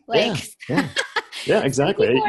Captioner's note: laughs